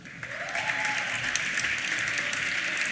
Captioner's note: applause